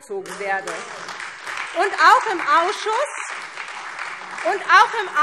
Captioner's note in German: Lebhafter Beifall SPD - Beifall Freie Demokraten